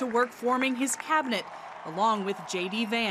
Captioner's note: audience cheering